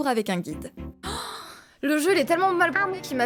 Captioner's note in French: respire audiblement d'effroi